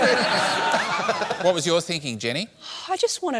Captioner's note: laughter